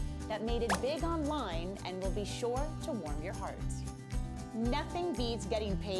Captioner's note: none